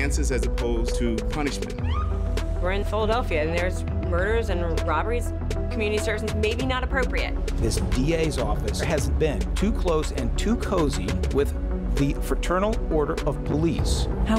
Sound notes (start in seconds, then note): 1.8 siren blares briefly